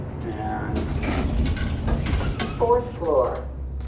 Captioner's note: door opens